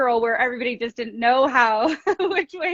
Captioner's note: laughs